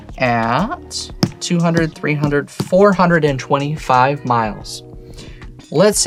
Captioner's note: tapping table